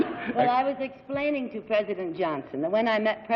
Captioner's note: laughs